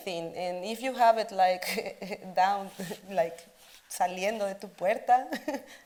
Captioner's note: speaks Spanish